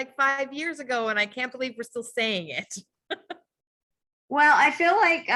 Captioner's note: laughs